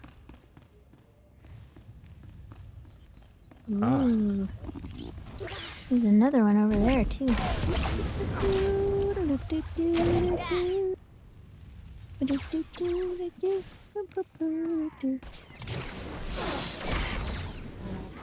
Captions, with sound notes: There's another one over there, too. [humming]